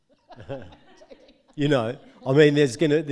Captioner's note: audience laughing